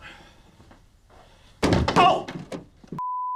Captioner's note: door banging